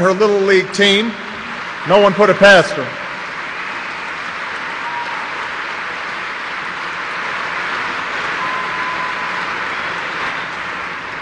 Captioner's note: applause